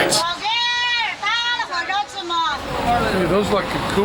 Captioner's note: non-english speech